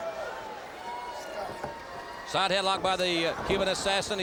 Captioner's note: crowd chatter